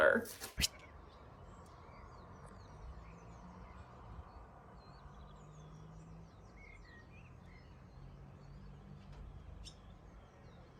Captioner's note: quiet nature sounds